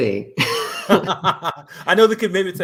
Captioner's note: laughter